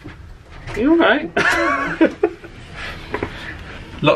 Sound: laughs

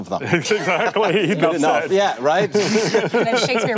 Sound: panel laughing

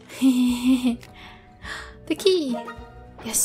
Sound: giggle; gasp

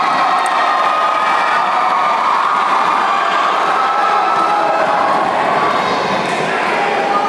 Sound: applause

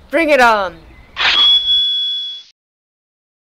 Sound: shing

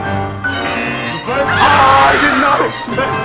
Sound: tense music; buzzer; laughs

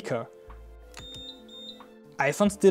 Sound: beep Sounds

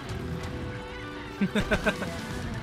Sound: laughter

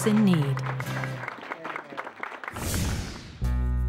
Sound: cheering and applause

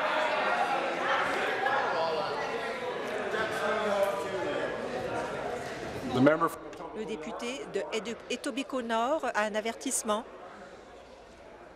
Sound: conversation din

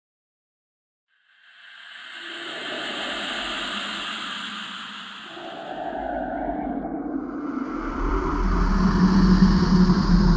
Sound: sound of ghost

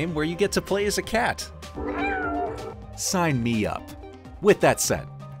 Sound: meow

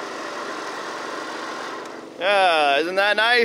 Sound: engine stops

